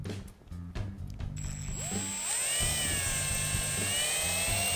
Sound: whirring

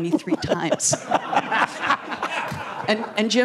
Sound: laughter

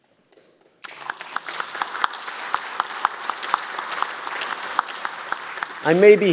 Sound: applause

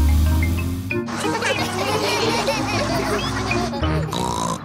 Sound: laughter; snorts

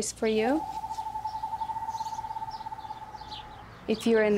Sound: owls hooting

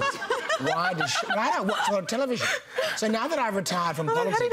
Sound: laughter

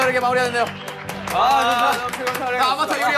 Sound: applause

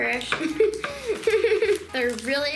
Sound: laughing

